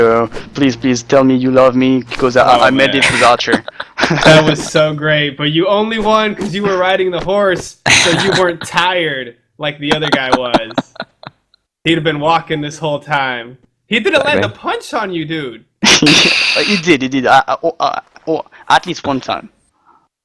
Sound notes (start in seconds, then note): 2.8 laughs